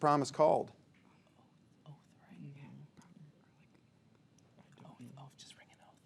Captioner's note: players whispering